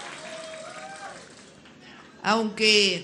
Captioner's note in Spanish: aplausos